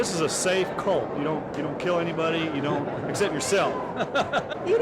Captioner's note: laughs